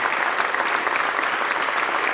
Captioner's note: applause